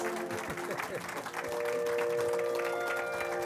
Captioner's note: laughter; dramatic orchestra music